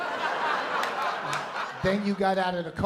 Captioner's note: laughter